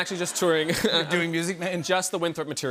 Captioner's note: laughter